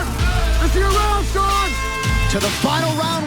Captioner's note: air horn blasts